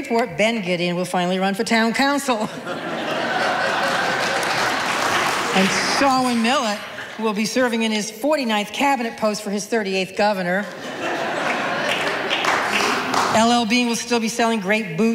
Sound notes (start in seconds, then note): 2.4 audience laughing